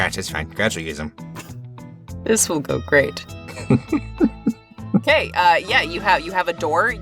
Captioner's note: chuckles